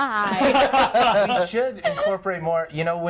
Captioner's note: others laughing